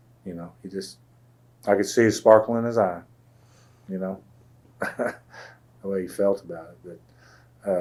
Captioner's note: laughs